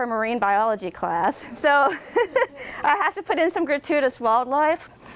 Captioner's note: laughter from audience and presenter